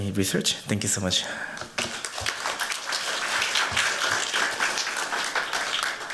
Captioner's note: applause